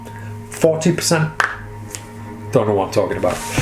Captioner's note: cracks knuckles